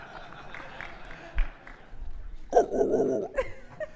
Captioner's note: people clapping